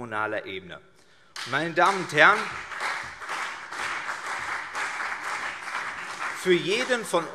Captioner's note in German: Beifall CDU und BÜNDNIS 90/DIE GRÜNEN